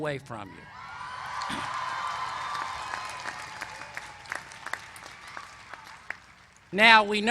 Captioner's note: applause